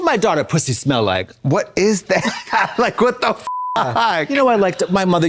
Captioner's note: beep